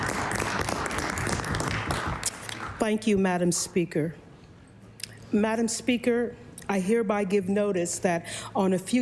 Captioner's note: applause